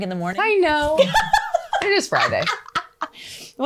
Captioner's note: laughs